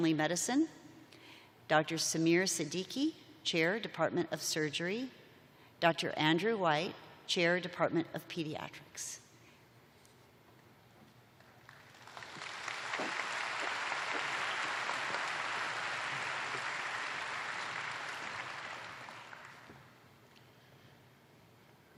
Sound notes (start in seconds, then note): 7.8 applause